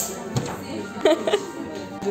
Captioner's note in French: rire